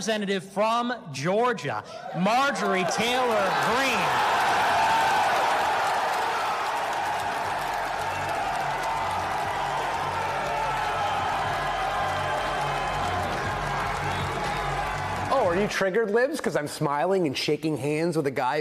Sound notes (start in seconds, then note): 11.3 crowd chanting; 11.9 applause